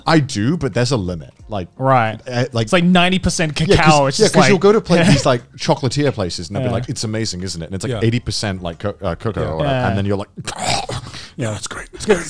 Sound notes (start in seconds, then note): 10.4 throwing up; 11.6 laughing